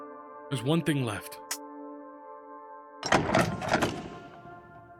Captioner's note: door opens